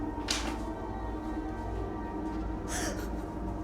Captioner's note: paper thuds; Dorothy whimpering